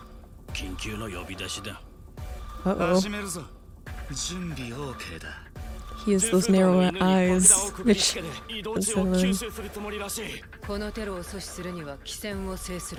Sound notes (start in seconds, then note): 0.1 foreign language; 8.0 foreign language